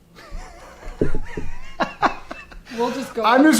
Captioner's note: laughing